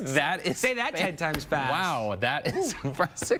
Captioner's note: laughter